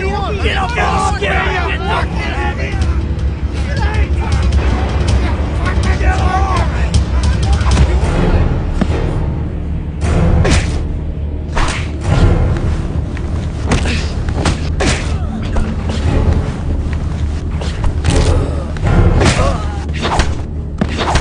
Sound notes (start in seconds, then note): 0.3 melodic suspenseful music; 10.4 thudding blows; 14.7 grunting